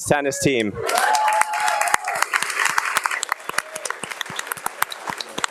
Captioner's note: audience applauding and cheering